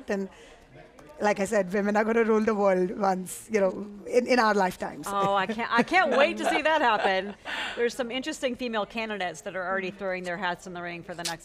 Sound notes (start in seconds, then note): 4.7 laughs